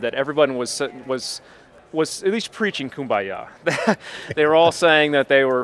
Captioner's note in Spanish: Risas